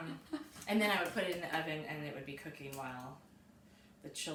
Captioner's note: laughing